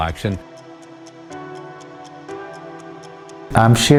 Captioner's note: clock ticking